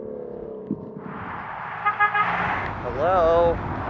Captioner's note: horn